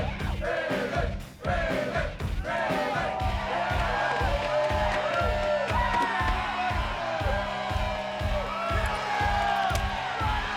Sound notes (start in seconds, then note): 6.8 fans shouting